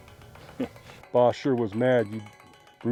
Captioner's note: chuckles